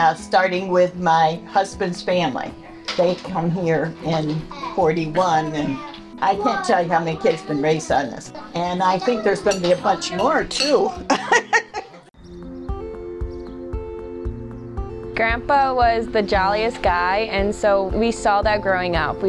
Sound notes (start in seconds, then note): 10.8 laughs; 12.5 serene music